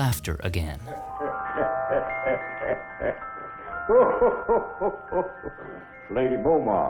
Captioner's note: laughter